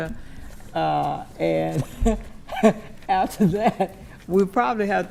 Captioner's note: chuckles